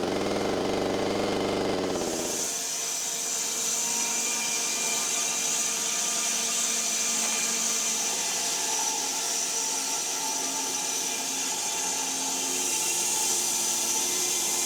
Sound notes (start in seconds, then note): 2.5 saw buzzing